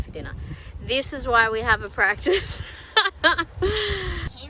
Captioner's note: laughs